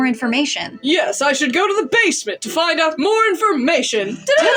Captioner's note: heroic Voice